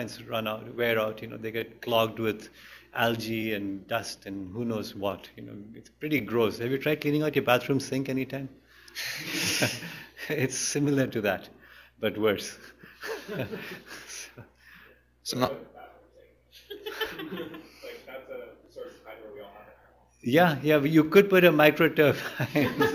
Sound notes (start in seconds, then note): 9.0 laughter; 12.7 laughter; 22.1 laughter